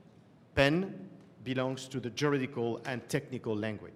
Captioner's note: french